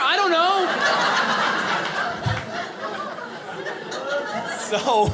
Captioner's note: audience laughing